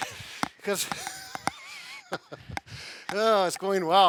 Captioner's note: all laughing